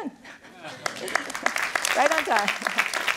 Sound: applause

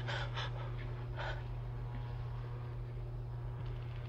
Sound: Betty pants

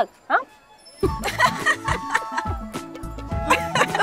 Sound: laughter

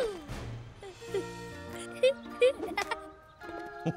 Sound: giggles

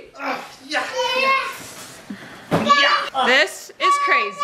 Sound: grunting

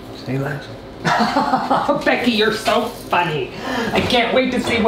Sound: man laughing

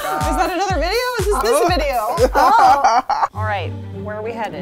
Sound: laughing

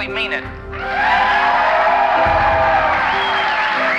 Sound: applause

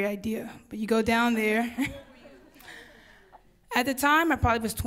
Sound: audience laughs

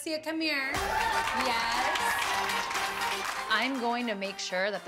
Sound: applause

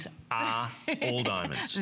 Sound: laughter

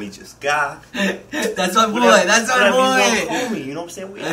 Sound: laughing

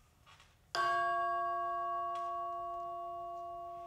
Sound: chimes ringing

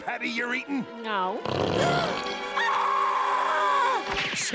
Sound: screaming

